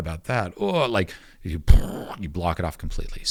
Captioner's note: making explosion sound